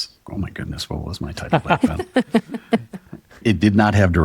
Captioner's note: chuckling